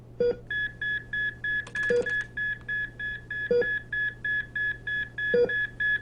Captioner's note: heart monitor rapidly beeping